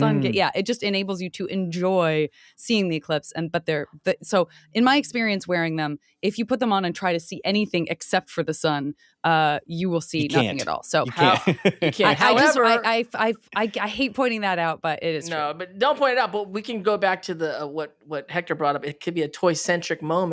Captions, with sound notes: it just enables you to enjoy seeing the eclipse. So, in my experience, wearing them, if you put them on and try to see anything except for the sun, you will see nothing at all. [laughing] I hate pointing that out, but it is true. No, don't point it out. But we can go back to what Hector brought up, it could be a toy-centric moment--